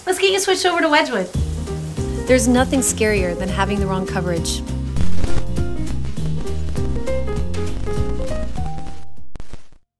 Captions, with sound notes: Let's get you switched over to Wedgwood. (lively music) There's nothing scarier than having the wrong coverage. (screen crackling) (lively music)